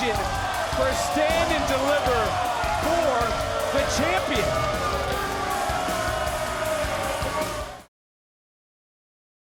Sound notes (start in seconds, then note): 4.7 crowd booing; 4.7 energetic music